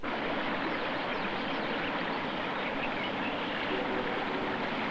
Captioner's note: sound of water